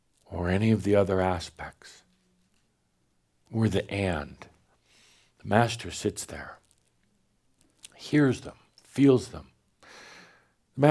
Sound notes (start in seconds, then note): none